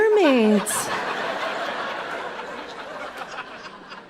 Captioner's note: audience laughing